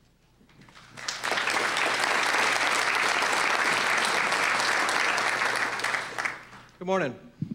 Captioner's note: applause